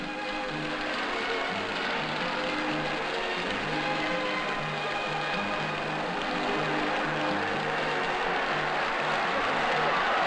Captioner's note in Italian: Applauso